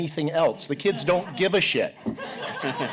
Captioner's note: laughter